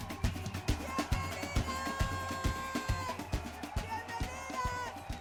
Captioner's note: speaking Spanish